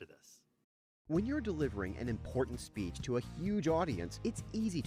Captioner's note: voiceover